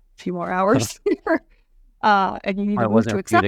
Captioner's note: laughs